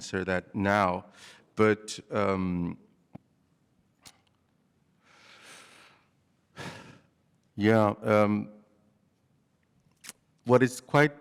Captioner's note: sighs